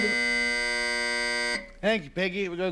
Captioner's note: buzzer buzzes